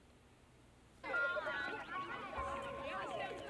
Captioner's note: chattering